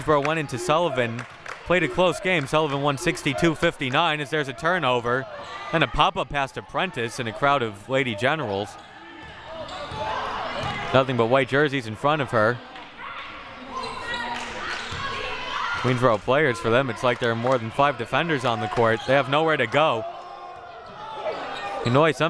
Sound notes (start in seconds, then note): 13.8 audience chattering and yelling